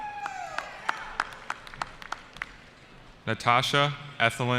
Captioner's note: cheering